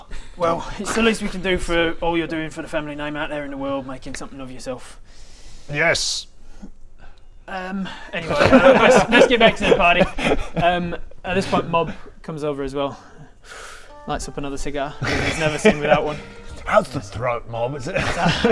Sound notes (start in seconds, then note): 10.0 shifty laugh